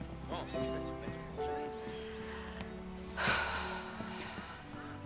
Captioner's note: birds calling